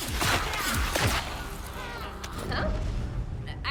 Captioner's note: ice shatters